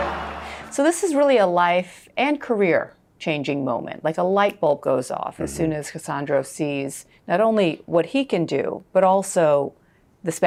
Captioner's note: crowd chanting